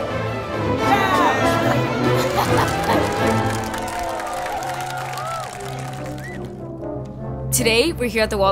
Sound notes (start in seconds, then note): 1.4 laughing and clapping; 4.6 audience applause